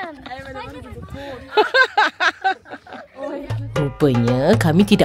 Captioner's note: laugh